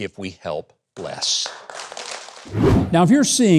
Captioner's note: audience applauds